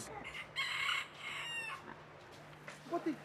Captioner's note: rooster crowing